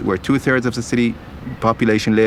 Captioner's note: none